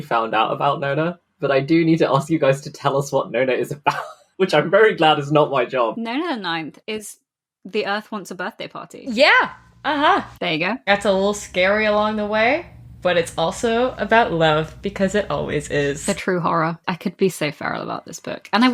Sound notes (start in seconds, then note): 4.0 laughs